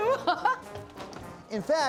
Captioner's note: laughs